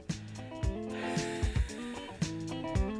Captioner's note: wheezing laugh